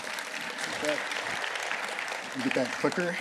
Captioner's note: applause